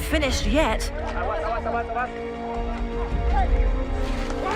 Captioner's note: shouting